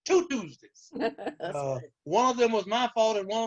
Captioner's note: chuckles